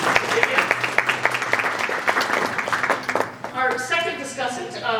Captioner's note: audience applauding